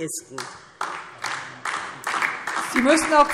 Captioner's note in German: Beifall DIE LINKE